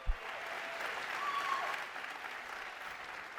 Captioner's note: cheers and applause